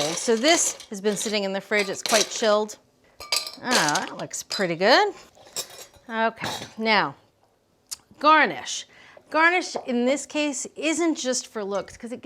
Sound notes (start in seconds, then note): 3.2 ice clinking